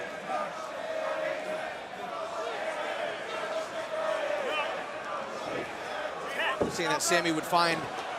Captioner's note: crowd cheering